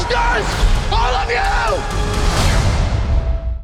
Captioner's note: shouting